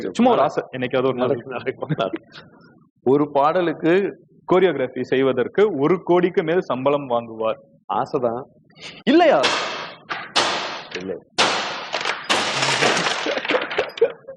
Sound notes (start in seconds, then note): 9.6 glass shatters; 12.9 laughs